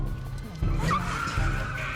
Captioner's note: tires screeches